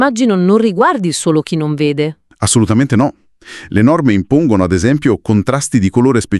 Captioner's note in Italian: sbuffare